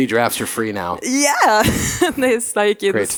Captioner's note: laughing